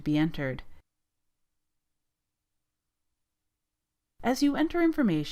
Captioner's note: silence